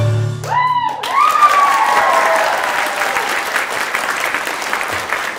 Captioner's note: applause